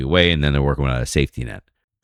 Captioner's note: uh